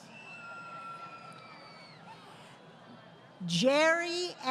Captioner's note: crowd Cheering